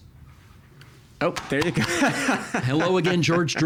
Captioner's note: chuckling